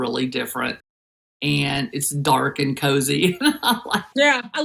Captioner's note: laugh